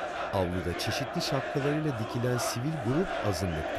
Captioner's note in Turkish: Hep bir ağızdan